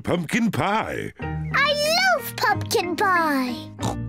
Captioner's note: snorts